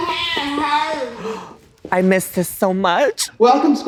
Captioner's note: footsteps thudding; gasps